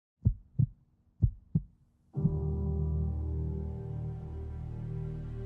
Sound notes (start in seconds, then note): 1.2 heart beating; 2.1 relaxing music